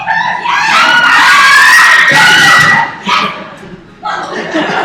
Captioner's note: excited cheers